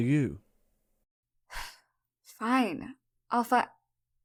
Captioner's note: sighs